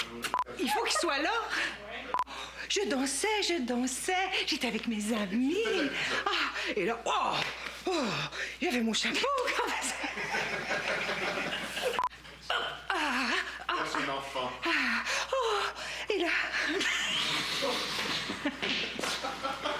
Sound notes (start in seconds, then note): 9.3 rires; 16.8 fou rire